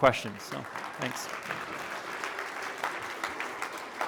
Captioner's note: applause